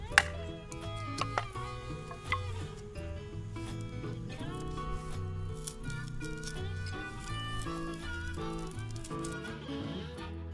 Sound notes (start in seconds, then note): 0.3 hits wood; 6.1 wood splits